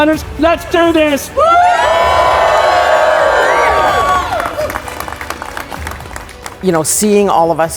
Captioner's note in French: applaudissements